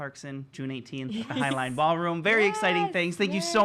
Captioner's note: giggles